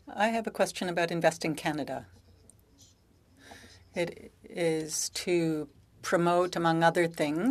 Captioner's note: speaking French